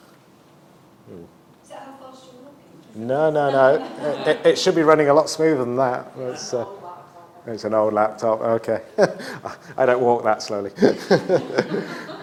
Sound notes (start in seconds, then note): 3.4 laughter; 10.8 laughs